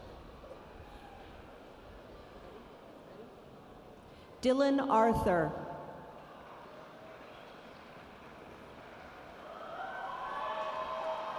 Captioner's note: cheering and Applause in the background